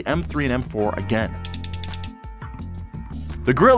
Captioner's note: ticking sound